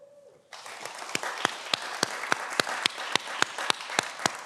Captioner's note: everyone applauds